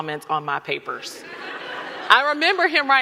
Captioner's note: audience laughing